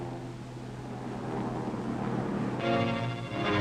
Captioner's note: airplane buzzing; ominous music